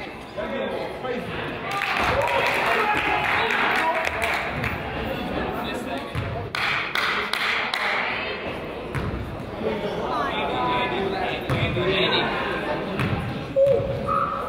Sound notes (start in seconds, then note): 1.6 crowd applauds; 1.8 person applauds